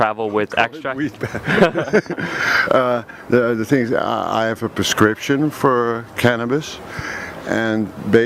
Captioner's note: laughing, weed pass?